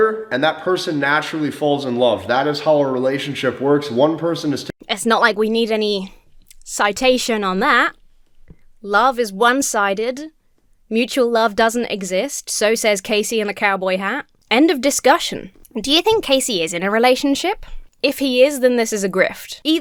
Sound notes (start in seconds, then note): none